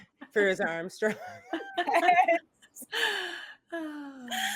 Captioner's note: all laughing